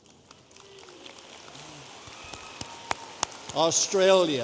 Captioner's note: audience applauding